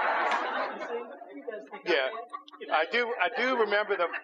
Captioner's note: laughter